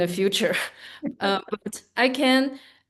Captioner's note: laughing